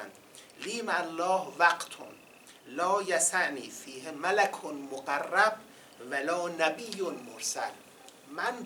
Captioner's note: quoting in Arabic